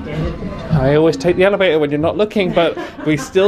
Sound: laughs

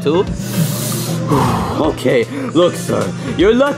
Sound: deeply breaths

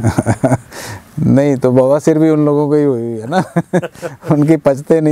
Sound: both Laughs

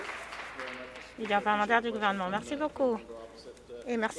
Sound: applause

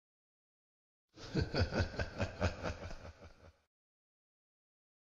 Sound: sound of tunnel laugh

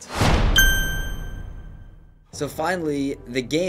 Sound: bing of approval

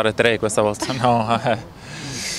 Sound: laughing

